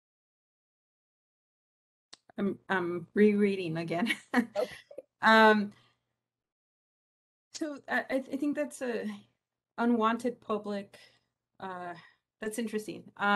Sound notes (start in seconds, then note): 4.5 laugh